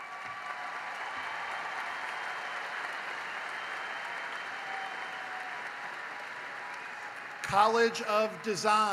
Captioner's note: applause